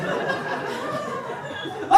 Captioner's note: audience laughing